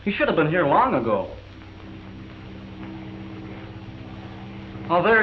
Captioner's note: airplane noise